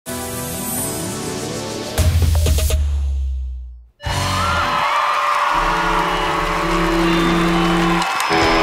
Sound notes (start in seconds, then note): 0.2 upbeat music; 4.0 crowd cheers